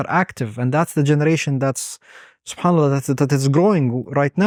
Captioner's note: speaks Arabic